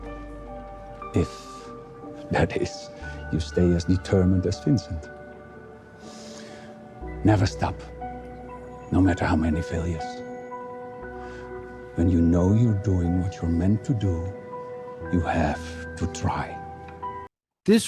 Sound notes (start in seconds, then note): 6.0 inhales deeply